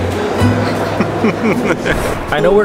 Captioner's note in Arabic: يضحك